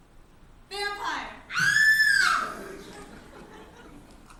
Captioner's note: Minnie screams